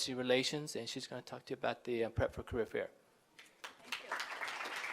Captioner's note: applause